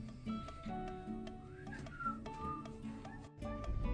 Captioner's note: awkward Whistling